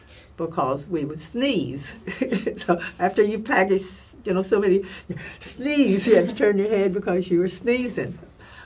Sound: laugh

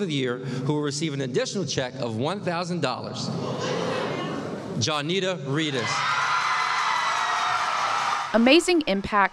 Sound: sound of applause and cheering

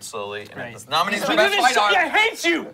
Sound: yelling

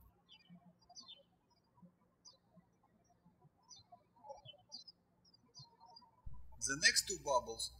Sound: birds chirping

